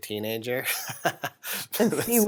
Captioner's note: chuckles